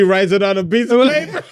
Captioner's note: laughing